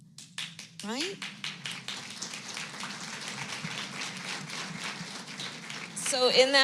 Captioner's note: applause